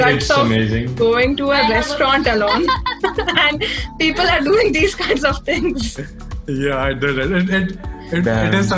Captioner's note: everyone chuckles